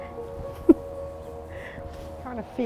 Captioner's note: chuckles